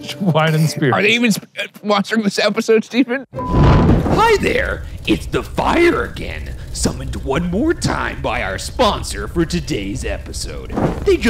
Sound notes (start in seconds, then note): 3.3 screen beeping; 3.4 smoke whooshing; 4.2 voiceover